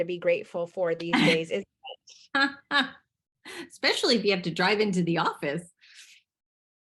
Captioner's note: laughs